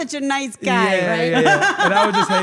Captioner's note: laugh